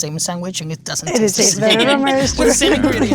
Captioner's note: laughing